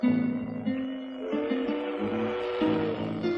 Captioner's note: train whistle